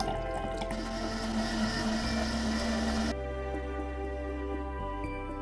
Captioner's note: juice glugs; blender whirs